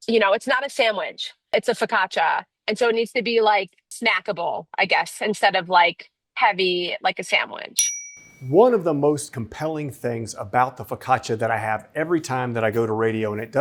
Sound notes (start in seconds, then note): 7.8 bell dings